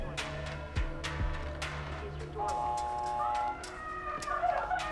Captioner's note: low TV broadcast